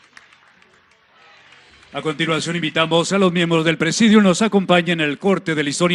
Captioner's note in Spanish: aplausos